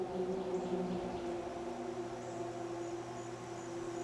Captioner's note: birds chirping